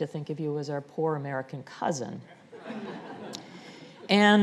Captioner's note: audience laughing